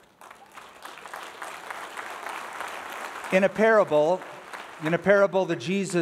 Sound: applause

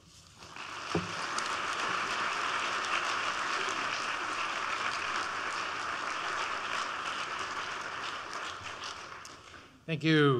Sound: applause

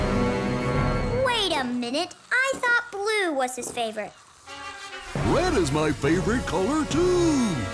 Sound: none

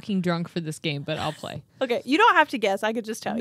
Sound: chuckles

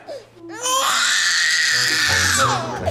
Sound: baby crying

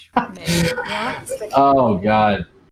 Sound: laughing

